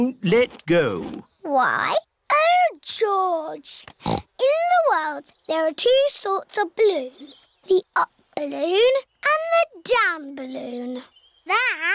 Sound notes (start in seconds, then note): 3.9 snorts